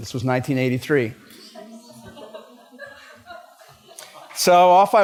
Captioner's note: laughter